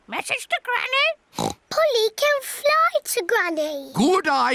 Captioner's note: oinks